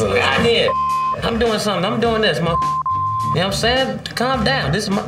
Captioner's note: beep